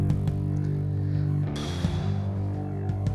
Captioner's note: exhales